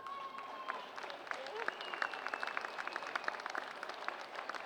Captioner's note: applause